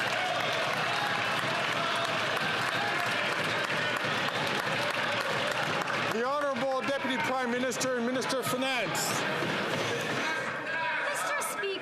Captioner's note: some Applause